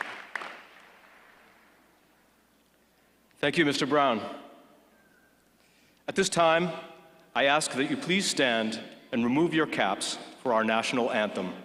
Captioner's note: applause